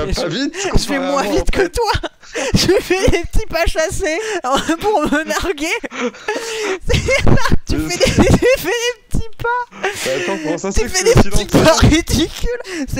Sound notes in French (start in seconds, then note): 0.4 rire; 4.4 rient; 7.9 rire